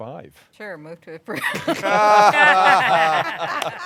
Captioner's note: laughter